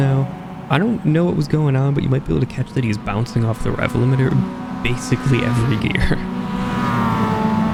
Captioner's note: chuckles